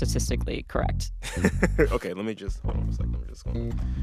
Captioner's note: laughter